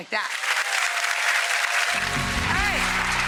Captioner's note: crowd applauds